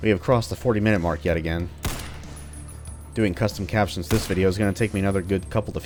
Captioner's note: Battle Rifle shot